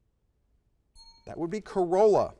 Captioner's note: bell rings